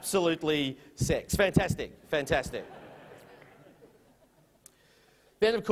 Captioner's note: chuckles from audience